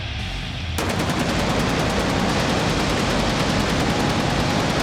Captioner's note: bullets popping